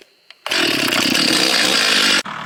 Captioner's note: chainsaw chugs